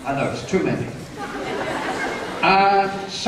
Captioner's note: laughter